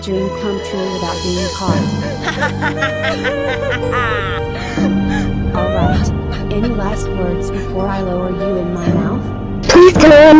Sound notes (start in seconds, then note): 2.2 evil Laugh; 2.2 crying in sadness; 8.8 crying in sadness